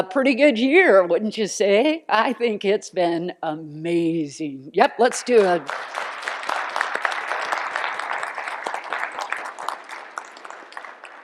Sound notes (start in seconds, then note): 5.3 applause